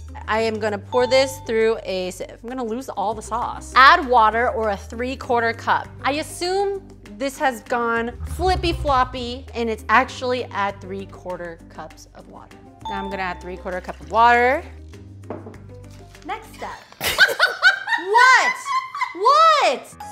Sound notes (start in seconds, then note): 17.0 laughing